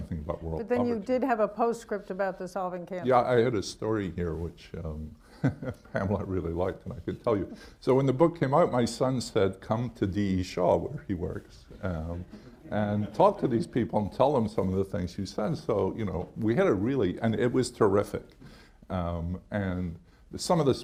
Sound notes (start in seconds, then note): 5.3 laughs; 12.3 laughter